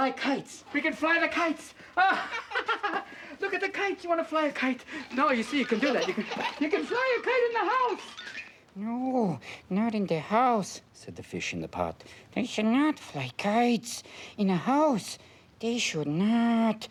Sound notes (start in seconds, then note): 1.8 both laughing